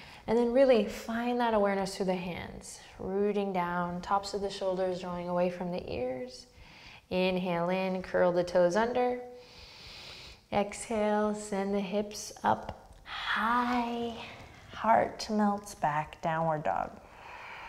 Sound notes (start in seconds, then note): 9.4 deep breath